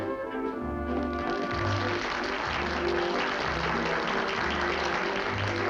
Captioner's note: applause